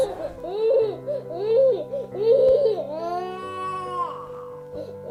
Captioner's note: child crying